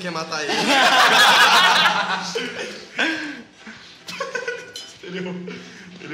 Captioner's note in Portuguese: risadas